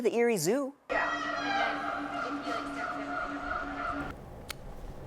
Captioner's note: animals squawk